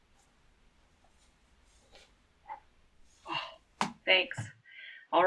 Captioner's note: makes sound of catching